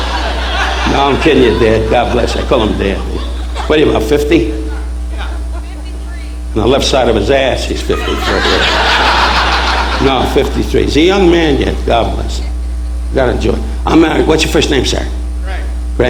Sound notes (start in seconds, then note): 7.8 audience laughing